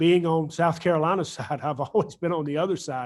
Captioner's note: chuckles